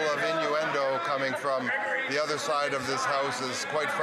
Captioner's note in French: voix de l'interprète